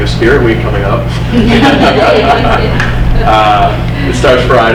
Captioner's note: everyone laughing